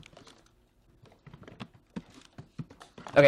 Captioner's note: typing sounds